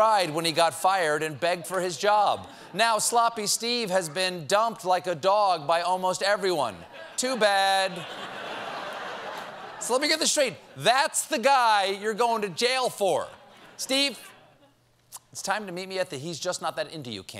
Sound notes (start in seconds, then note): 6.8 laughter